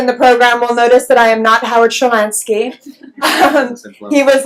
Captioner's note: laughs